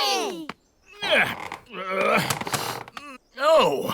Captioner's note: grunts